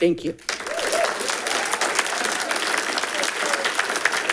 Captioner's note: audience clapping